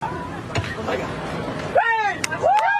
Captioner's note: screaming